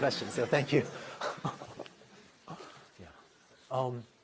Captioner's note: laughter